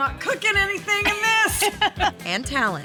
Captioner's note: laughter